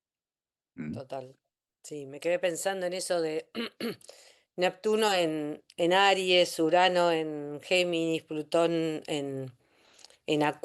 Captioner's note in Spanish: carraspeo